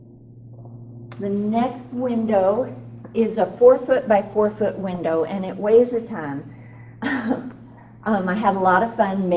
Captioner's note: laughs